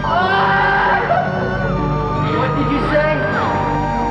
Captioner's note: laughs